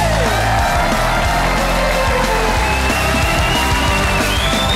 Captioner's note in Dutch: applaus